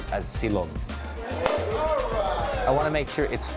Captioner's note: pop!